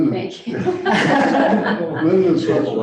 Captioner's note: all laughing